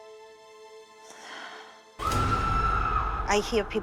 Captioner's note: echoing screaming